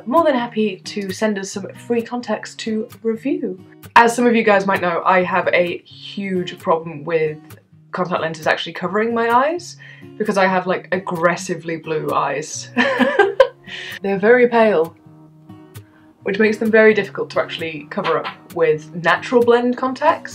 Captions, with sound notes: more than happy to send us some free contacts to review As some of you guys know, I have a HUGE problem with contact lenses actually covering my eyes Because I have like, aggressively blue eyes. [Laughter] They're very pale. Which makes them very difficult to actually cover up with 'Natural Blend' Contacts